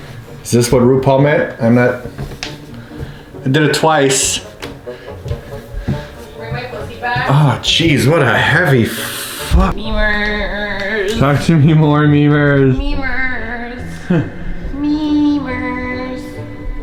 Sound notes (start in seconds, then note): 13.9 chuckles